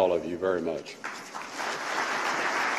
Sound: applause

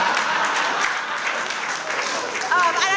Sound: audience applauds

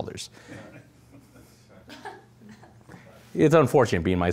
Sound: audience laughing

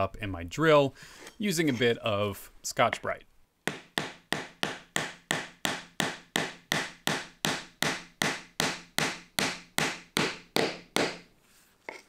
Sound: hammering

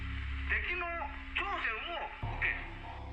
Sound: japanese dialogue

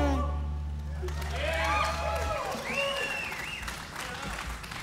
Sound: audience applauding

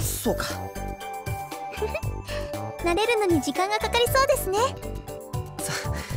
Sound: giggle

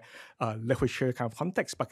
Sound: foreign speech

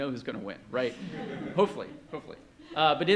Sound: laughter

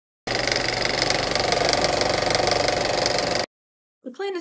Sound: old-fashioned camcorder noise

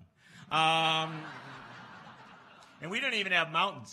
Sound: laughs

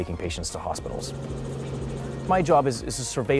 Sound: helicopter sound

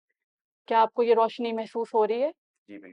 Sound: in Urdu

